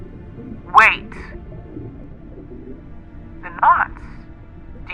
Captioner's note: SFX: earpiece noise